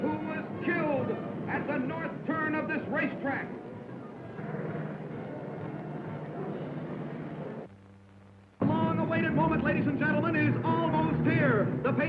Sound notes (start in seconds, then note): 4.5 crowd murmuring